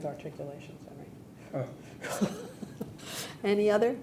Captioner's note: laughing